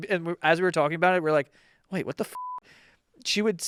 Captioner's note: beep